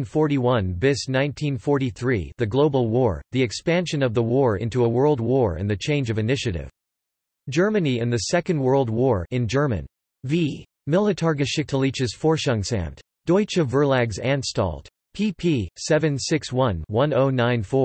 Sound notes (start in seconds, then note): 9.9 in German